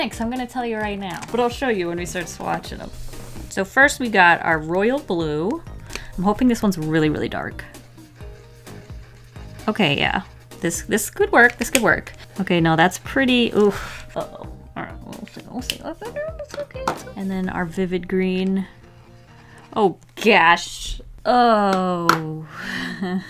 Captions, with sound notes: I'm gonna tell you right now, but I'll show you when we start swatching them so first we got our royal blue I'm hoping this one's really really dark okay yeah this is could work this could work [repeats herself nervously] okay no that's pretty ugh... uh-oh...[exhales] its okay, its okay and then our vivid green. oh gawsh Oh..[giggles]